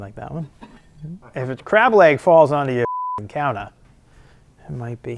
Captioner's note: beep